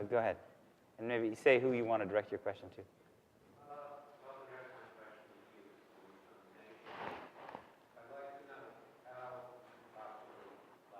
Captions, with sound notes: And if you can say who you want to direct your question to. (audience member speaking softly off microphone)